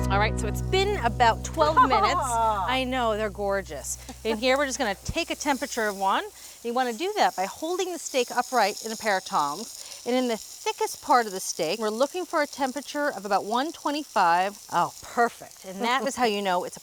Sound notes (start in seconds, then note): 1.6 laughing